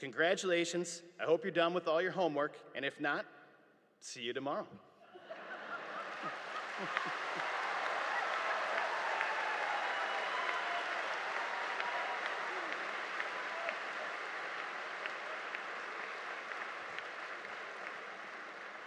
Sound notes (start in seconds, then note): 5.1 audience laughing; 7.4 audience applauding